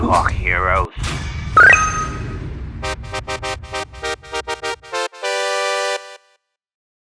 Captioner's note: victory video game sound